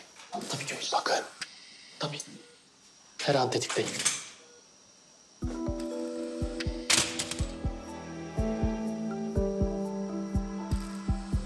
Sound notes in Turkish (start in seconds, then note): 3.6 Kapı açıldı